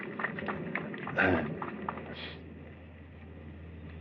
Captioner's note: applause